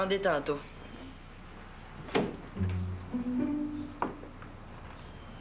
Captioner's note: On frappe à la porte